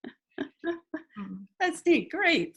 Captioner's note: laughs